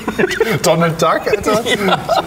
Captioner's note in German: Röcheln, abgelöst von Gelächter; Gelächter